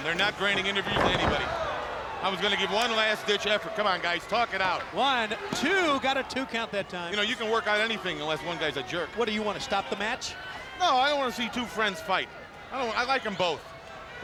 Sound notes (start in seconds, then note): 0.3 body thudding